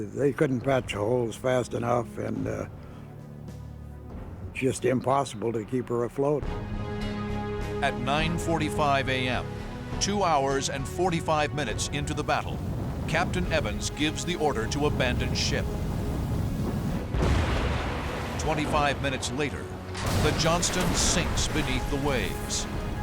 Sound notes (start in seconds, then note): 19.0 explosions